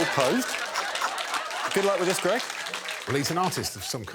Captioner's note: laughter; whistle blows